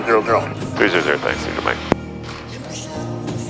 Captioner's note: over Headset